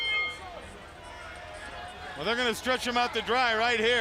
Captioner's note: bell ringing